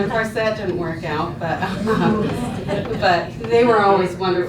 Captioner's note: laughs